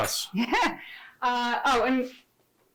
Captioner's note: giggling